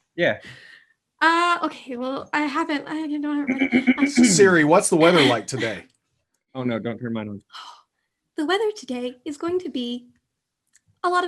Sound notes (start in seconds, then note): 3.5 clearing throat